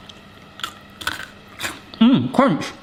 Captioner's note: breadstick crunching